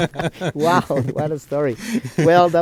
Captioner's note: both laughing